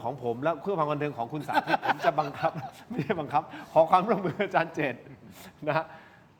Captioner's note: laughs